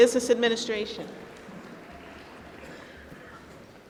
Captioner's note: applause